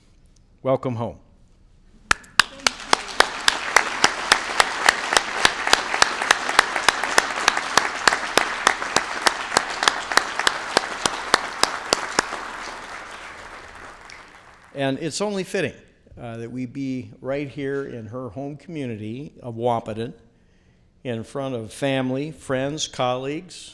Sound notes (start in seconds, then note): 15.6 applause